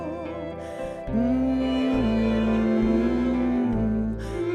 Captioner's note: humming